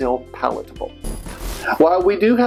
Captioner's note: static